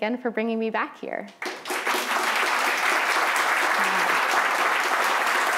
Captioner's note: applause